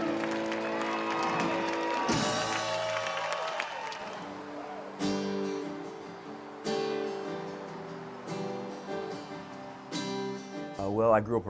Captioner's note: clapping & cheering